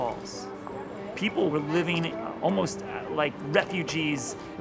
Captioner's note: none